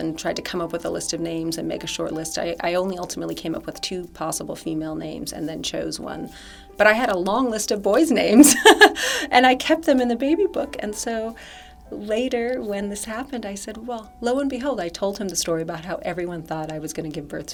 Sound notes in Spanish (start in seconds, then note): 8.4 risas